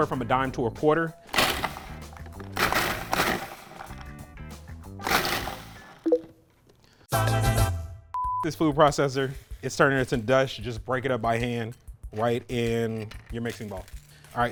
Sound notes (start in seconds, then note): 1.6 food processor running; 7.2 cheerful singing